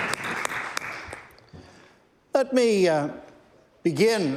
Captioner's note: some Applause